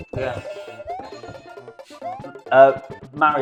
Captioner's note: buzzer ringing